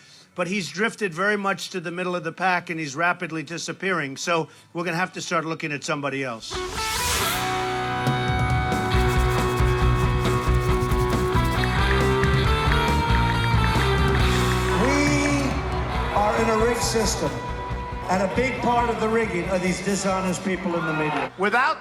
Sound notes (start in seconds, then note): 6.7 rock music; 8.8 brush scraping; 12.2 ticking